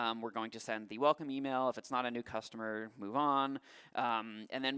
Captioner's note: none